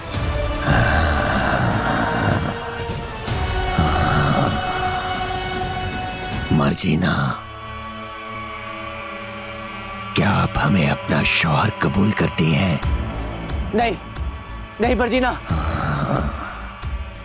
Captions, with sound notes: [roars] Marjina. Do you accept me as your husband? No. No Marjina.